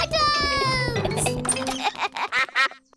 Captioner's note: quacks